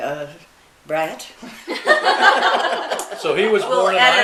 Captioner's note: laughing